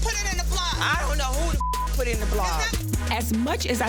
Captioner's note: beep